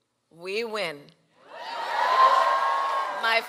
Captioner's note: cheering